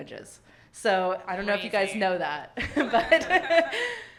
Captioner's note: chuckles; audience laughing